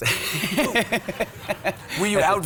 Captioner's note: laughs; audience laughs